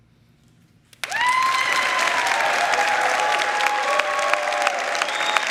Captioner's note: crowd clapping and cheering